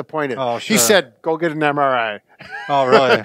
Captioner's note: laughs